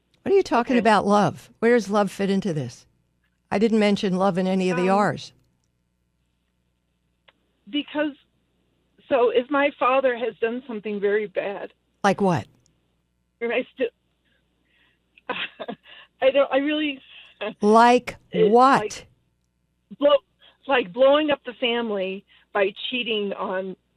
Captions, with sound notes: What are you talking about love? Where does love fit into this? I didn't mention love in any of the Rs. Um, because, so if my father has done something very bad- Like what? And I still, (laughs) I don't, I really- Like what? Like, like blowing up the family by cheating on